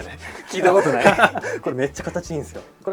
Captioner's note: laughs